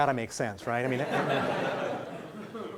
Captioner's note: laughing